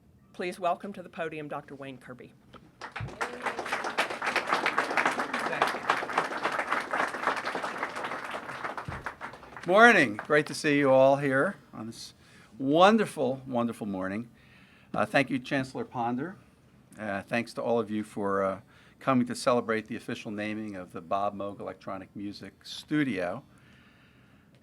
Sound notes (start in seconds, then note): 2.7 applause; 6.8 applause continues